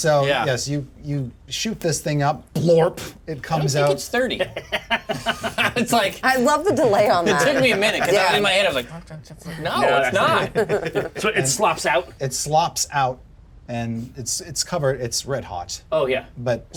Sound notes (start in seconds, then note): 4.1 laughs